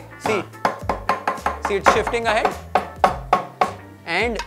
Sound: banging on the table

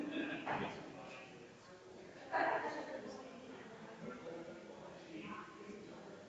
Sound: people chattering distantly continues

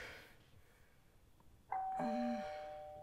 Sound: door Bell

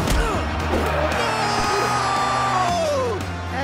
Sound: grunting; electronic voice effect

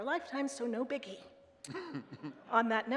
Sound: man chuckling

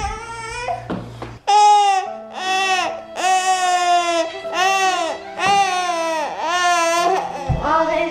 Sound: crying

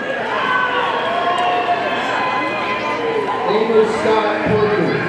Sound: audience cheers

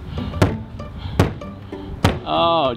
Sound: hand thumping

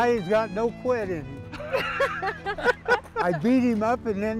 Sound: laughing

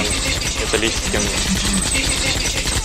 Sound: sound from Green Elephand: CleanCleanClean!

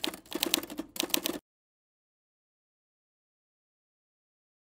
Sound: typewriter typing

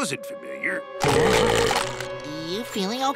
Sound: belching

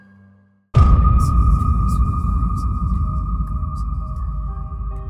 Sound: whirring boom

